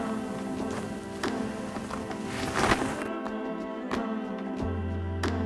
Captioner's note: gravel crunching